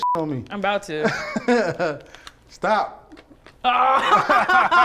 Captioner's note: laughs; both laugh